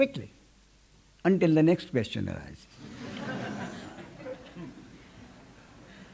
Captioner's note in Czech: smích